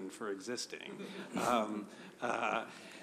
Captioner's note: laughter